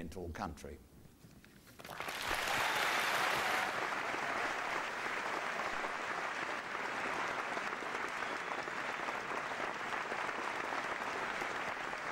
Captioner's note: applause